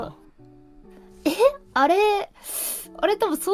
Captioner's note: breathes in